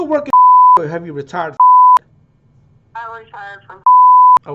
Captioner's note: beep; beep